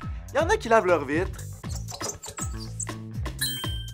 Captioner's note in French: couinement